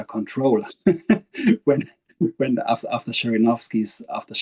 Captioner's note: laughing